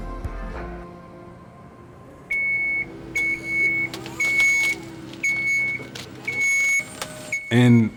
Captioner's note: beeping